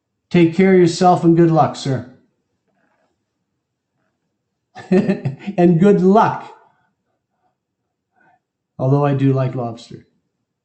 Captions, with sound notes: Take care of yourself and good luck, sir. [LAUGH] And good luck. Although I do like lobster.